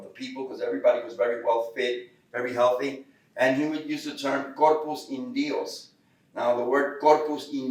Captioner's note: Spanish